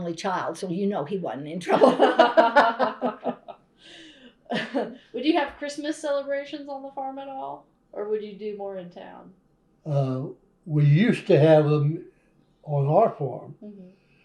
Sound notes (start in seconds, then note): 3.4 laughter